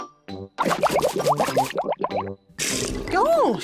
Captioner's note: bubbles